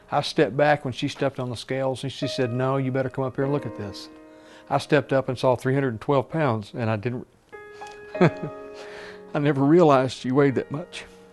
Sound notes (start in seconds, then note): 8.2 laughs